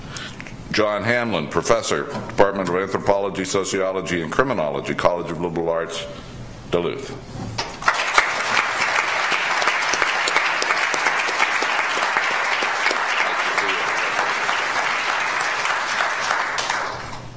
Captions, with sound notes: John Hamlin, professor, Department of Anthropology, Sociology and Criminology, College of Liberal Arts, Duluth. (audience applauds)